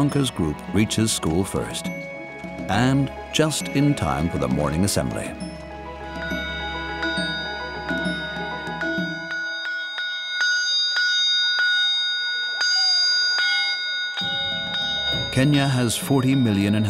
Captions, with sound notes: A quarter past 8:00 in the morning, while the others are still on their way, Letiunka's group reaches school first. And just in time for the morning assembly. (bell clinging)